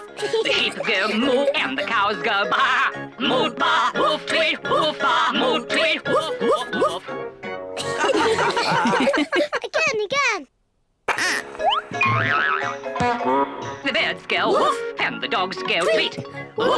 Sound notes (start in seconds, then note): 7.8 all giggle